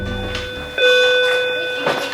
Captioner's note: bell ringing